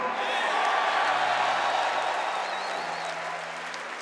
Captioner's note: audience cheering